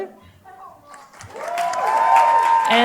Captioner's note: applause